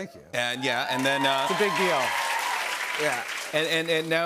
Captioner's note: cheers and applause